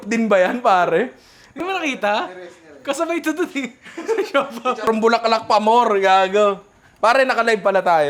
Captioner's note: laughs